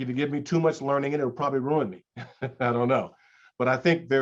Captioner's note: chuckles